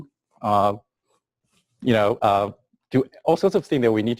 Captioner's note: pause